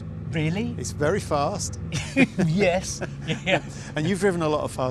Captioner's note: laughs